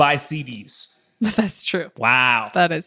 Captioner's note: laughs